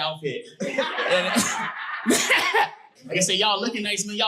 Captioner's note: guffawing; audience laughing